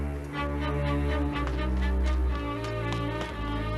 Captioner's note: rapid footsteps